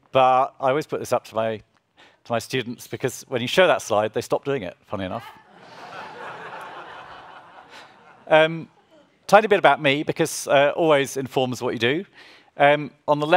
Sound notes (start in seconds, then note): 5.2 audience laughs